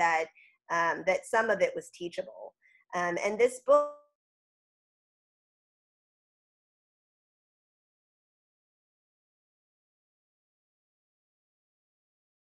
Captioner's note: audio cuts off